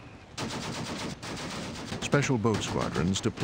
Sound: rapid gunfire

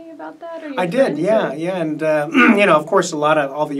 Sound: clears throat

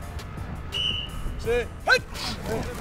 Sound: whistle blows

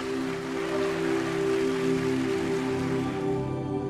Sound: applause

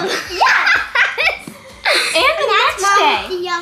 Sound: laughs

